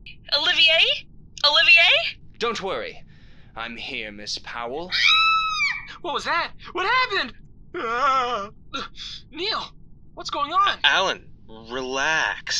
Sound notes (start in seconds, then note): 4.8 screams; 8.2 whines